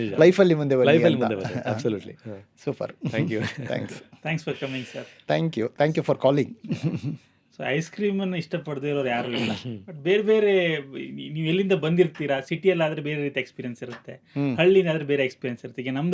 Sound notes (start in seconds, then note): 9.2 clears throat